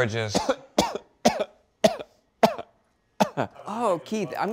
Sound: coughs

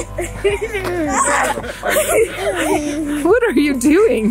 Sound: laughs; grunts; laughs

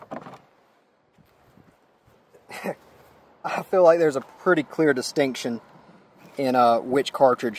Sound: laughs

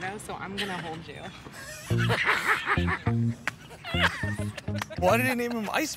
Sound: laughs

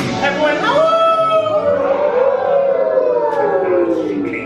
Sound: howling

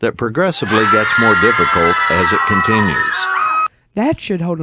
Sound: YT Police Screaming

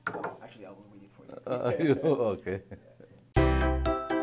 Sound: giggling; background music

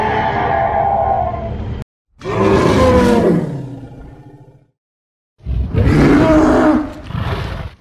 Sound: roar; dino roar

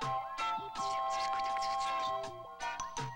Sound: whispering

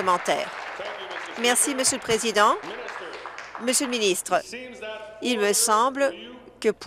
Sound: applause

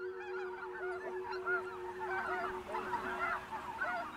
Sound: birds honking

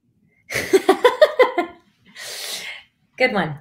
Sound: laughing

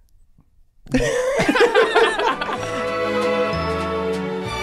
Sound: all laughing; swinging big band music plays

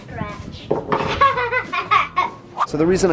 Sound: laughing

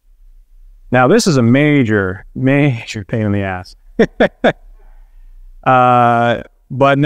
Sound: chuckles

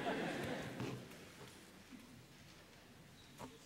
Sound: laughter

